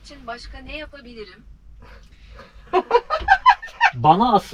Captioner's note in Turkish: kahkaha